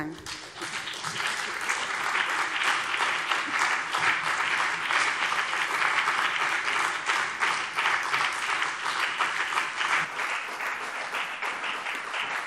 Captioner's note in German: Beifall BÜNDNIS 90/DIE GRÜNEN und CDU